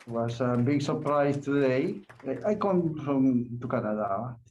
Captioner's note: applause